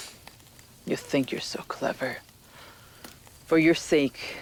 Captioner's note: scoffs